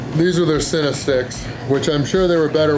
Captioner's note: none